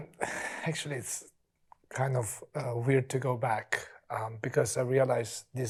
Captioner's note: exhales